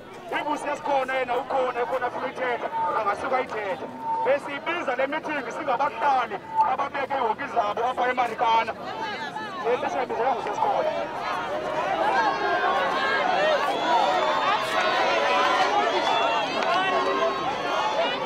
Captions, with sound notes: But if SES'KHONA is here and wants to say something they're allowed to. This meeting is for Marikana residents. This is not a SES'KHONA meeting. (crowd chattering)